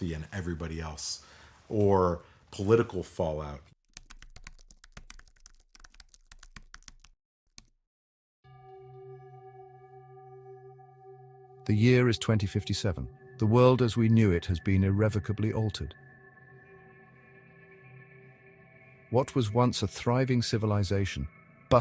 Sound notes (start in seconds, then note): 3.9 keyboard clicking; 8.6 foreboding music